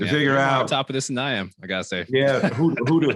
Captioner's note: laughs